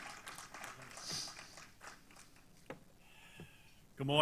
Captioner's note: applause